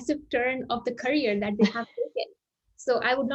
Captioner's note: chuckles